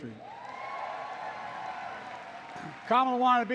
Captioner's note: applause